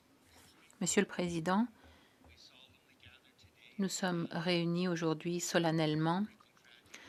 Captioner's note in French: voix de l'interprète